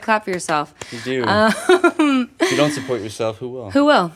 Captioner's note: laughs